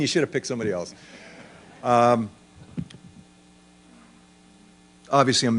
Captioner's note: laughter